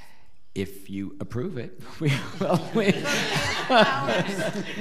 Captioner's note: laughing